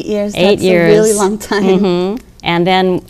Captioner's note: laughter